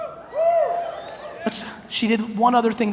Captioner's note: audience cheers